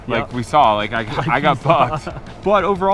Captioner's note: laughing